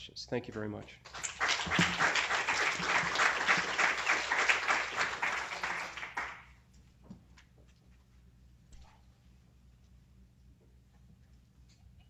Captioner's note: applause